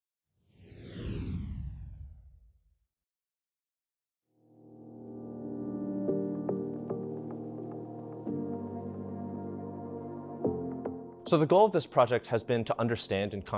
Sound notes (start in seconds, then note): 0.4 gentle music; 0.4 logo whooshing